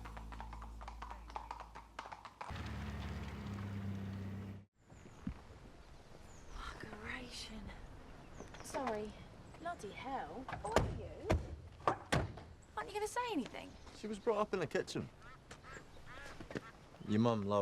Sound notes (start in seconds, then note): 0.0 hooves clomping; 2.4 engine rumbling; 2.6 birds chirping